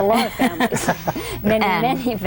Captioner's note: laugh